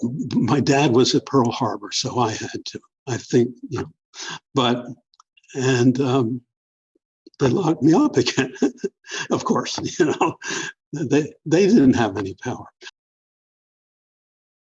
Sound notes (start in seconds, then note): 7.9 laughter